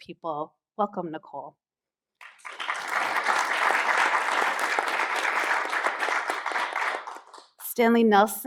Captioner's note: applause